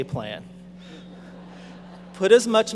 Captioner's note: audience laughing